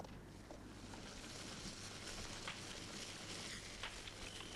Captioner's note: fire crackling